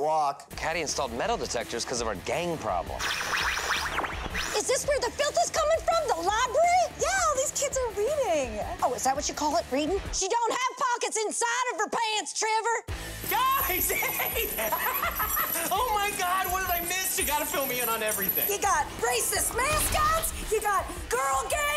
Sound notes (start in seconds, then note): 2.9 detector warbling; 13.7 laughs